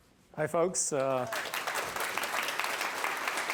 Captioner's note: applause